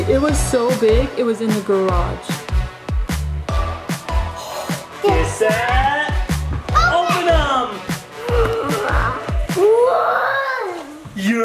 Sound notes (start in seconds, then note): 4.4 gasps; 8.4 gasps